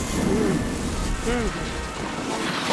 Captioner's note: gasps